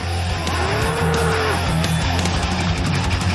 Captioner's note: bull bellows